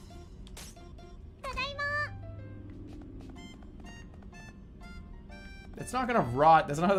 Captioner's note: vroomer passes